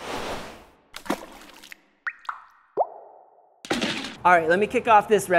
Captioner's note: liquid splashes